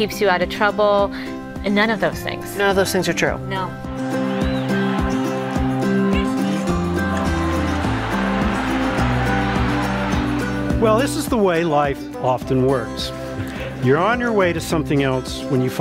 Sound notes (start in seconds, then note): 5.8 crowd Conversation